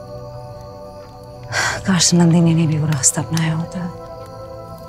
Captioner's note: Sighs